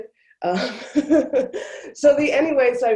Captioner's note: laughs